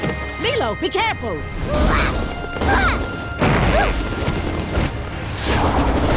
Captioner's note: grunting